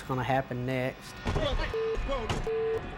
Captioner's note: beep